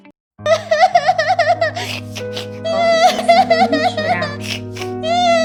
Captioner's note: crying noise